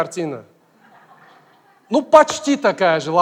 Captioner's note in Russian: смех из зала